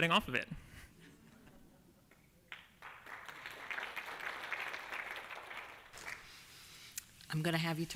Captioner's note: applause